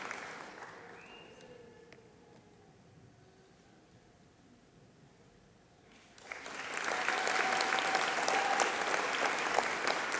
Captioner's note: applause